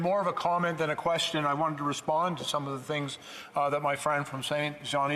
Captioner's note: speaking French